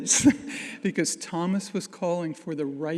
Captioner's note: audience laughing